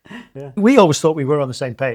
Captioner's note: laughs